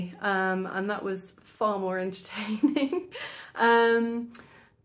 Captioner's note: giggles